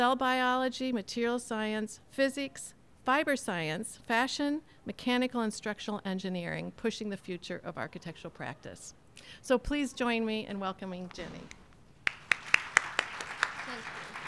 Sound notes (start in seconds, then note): 12.0 applause